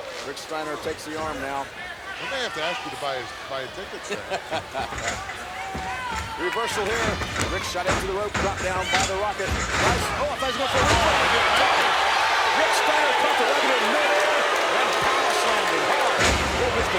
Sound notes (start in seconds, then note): 4.0 laughs; 10.6 commentators exclaim; 10.6 crowd cheers